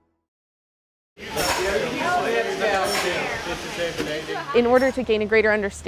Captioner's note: indistinct chatter